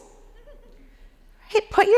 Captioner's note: audience laughing